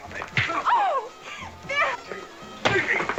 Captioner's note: screams